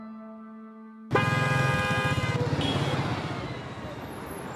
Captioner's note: car horn